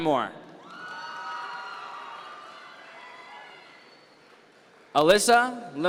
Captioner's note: audience members cheer